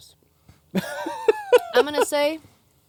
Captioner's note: laughs